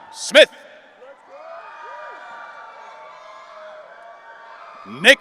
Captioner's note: audience cheering